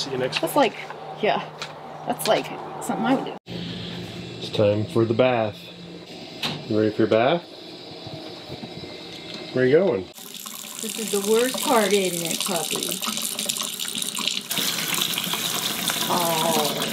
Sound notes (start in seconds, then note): 13.6 water runs